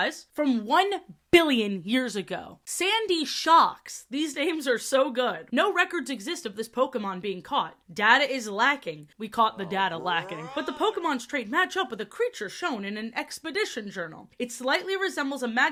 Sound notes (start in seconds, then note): 10.5 "oh brother this guy stinks" audio plays